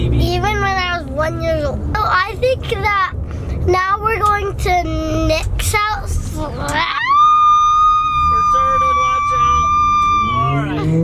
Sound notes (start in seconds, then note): 6.8 screams